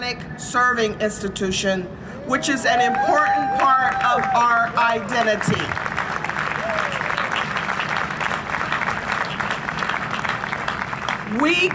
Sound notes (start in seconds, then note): 2.9 cheering and Applause; 5.9 cheering and Applause